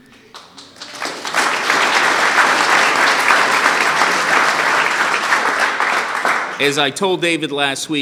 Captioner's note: applause